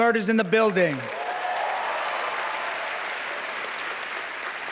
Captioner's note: cheering, applause